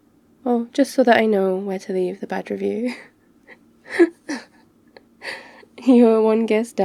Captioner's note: laughs